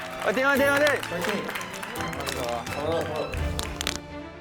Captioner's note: storm of applause